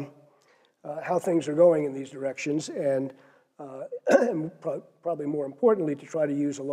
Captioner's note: cough